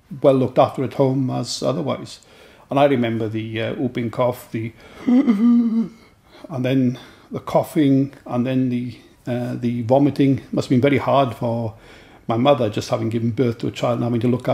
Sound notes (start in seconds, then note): 4.8 gasps